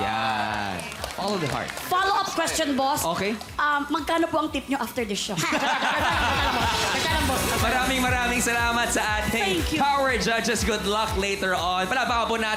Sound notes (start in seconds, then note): 5.4 laughter